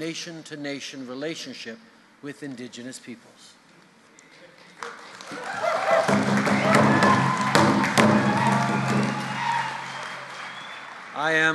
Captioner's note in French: Applaudissements et battements de tambour